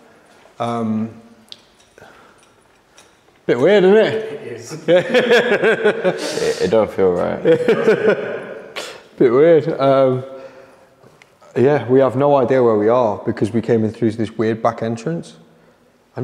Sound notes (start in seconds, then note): 5.7 laughs